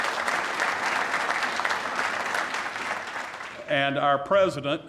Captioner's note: applause